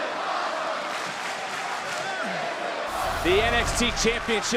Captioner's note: corwd chanting